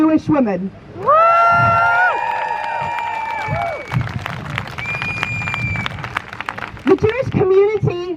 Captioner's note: crowd Cheers